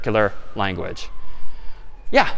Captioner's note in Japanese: サイレン